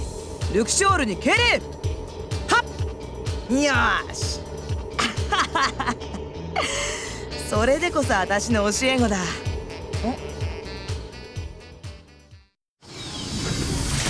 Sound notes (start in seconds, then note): 5.0 laugh